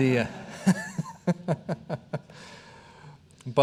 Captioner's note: all laughing